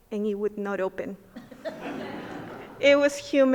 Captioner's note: everyone laughing